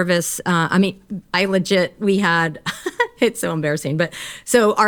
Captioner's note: chuckles